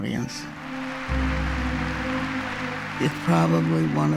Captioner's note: applause